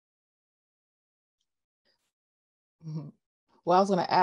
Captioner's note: laughs